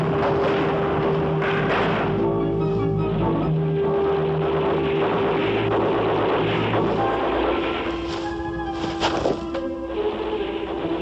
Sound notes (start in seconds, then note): 1.0 faint gunfire